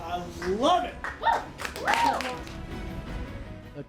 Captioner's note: people exclaiming in excitement; upbeat orchestral music